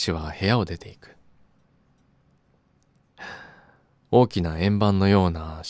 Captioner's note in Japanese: ため息